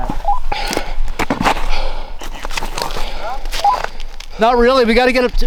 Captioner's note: heavy breathing